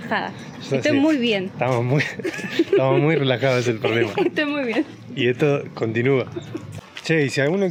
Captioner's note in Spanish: risas